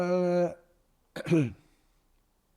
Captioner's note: clears throat